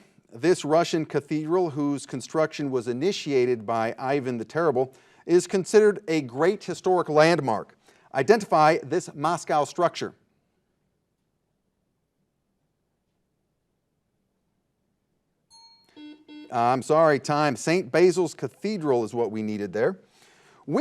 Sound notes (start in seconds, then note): 15.5 bell dings; 15.8 buzzer buzzing